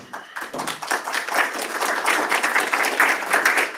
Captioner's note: applause